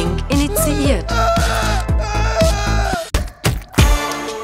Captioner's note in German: schreit